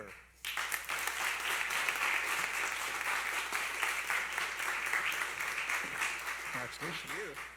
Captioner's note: applause